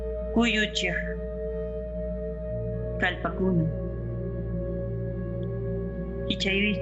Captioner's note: person speaking in foreign language